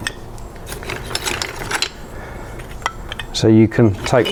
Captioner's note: slate rattles